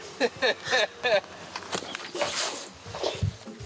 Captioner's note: laughing